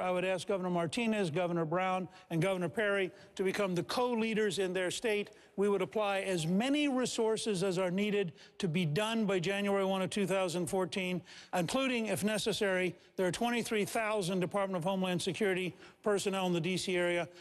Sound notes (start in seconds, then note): none